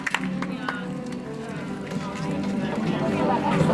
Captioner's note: audience applauds